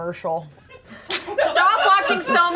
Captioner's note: everyone laughs